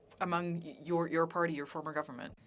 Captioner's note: speaking French